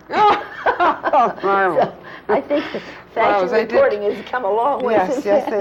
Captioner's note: laughter